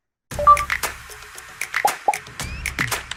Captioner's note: rhythmic music; chiming; popping